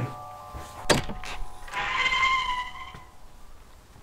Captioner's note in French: la porte s'ouvre en grinçant